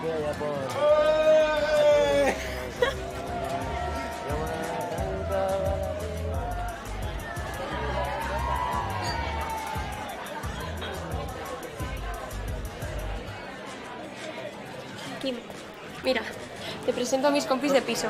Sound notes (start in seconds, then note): 0.0 sings; 0.6 guys shout; 8.1 shouting